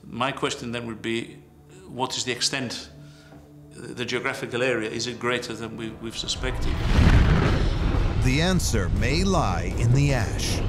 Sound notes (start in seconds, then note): 6.1 deep rumble; 6.3 explosions